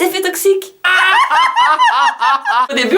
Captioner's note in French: s'esclaffent